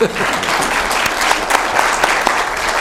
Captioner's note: applause